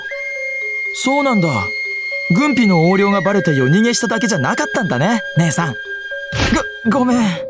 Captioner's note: slap